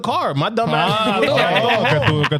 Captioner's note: laughing